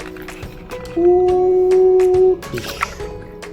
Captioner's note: imitating sound